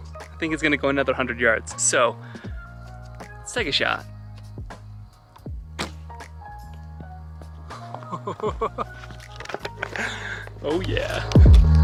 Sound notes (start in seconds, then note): 5.3 bow thumps; 7.8 chuckles